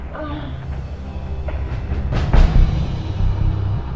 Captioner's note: woman groaning